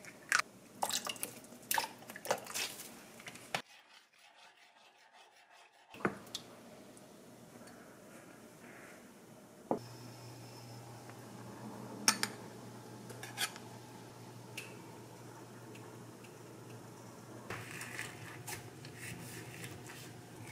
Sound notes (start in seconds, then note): 3.4 stir stir stir